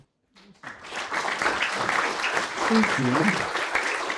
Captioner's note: applause